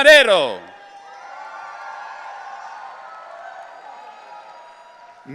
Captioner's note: audience cheering